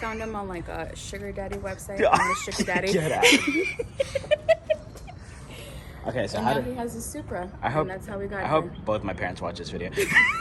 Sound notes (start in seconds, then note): 3.9 laughs